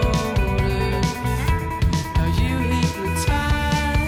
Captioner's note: arrow dings